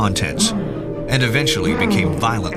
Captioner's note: creature groans